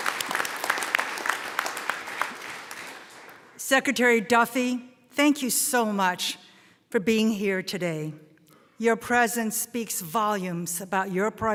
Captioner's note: applause